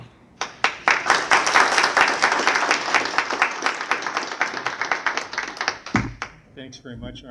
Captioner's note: applause